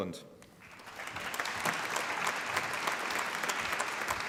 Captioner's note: applause